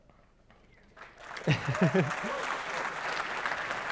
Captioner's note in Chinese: 鼓掌